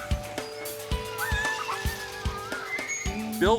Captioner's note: boy screaming